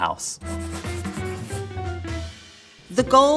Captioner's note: upbeat music; graphic scratching